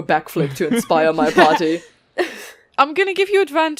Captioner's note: laughter